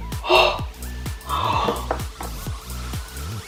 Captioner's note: gasps